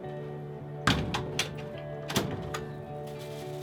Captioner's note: door bang